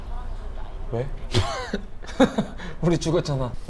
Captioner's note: haha